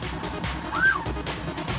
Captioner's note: police siren chirps; tense music playing